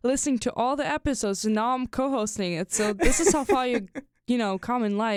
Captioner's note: chuckles